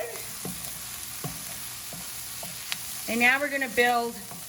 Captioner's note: sizzling